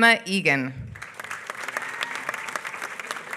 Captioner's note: applause